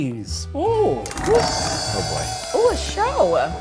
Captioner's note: clanging in background